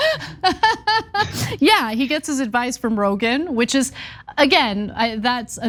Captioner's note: laugh